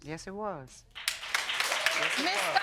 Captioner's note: audience cheering